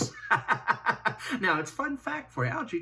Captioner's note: laughs